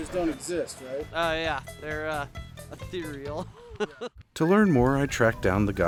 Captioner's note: laughs